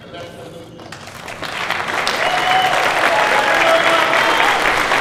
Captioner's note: cheers and applause